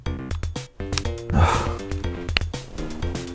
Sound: sigh

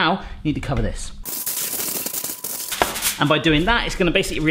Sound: foil crunching

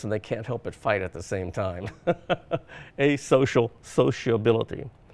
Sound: laughs

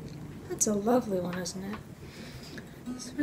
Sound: voice going a little

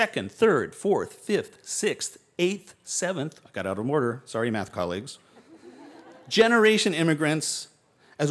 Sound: laughter

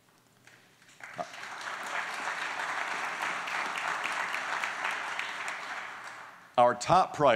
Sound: applause

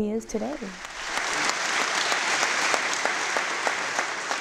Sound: applause

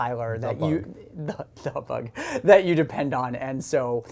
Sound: laughs

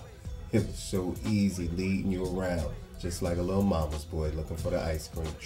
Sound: none

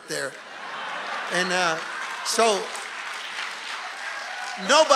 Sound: congregation laughing and applauding

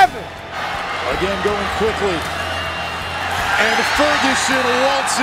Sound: voiceover

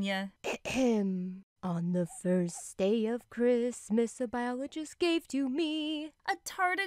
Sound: ahem

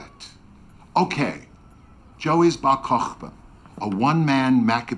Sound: Abe speaks foreign language; speaks foreign language

